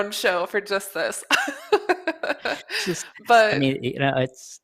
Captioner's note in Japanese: 笑い